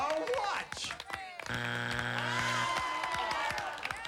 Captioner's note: buzzer